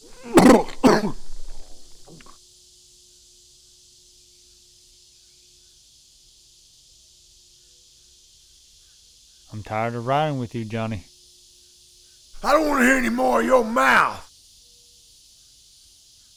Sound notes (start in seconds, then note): 0.5 Johnny retching